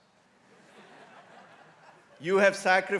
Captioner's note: crowd laughing